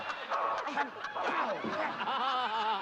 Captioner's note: laughter